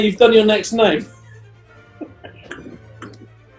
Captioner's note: cackling